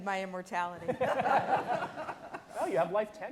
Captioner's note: all laughing